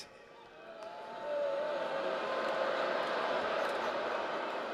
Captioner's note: booing